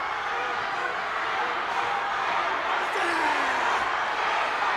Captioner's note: audience cheers; audience chants